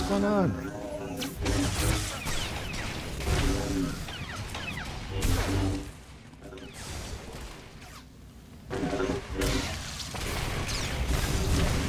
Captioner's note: gunshots